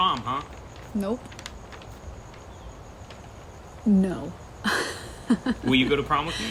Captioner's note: laughs